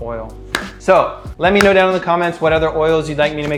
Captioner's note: claps